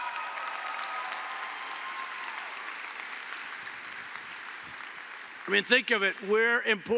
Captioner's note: applause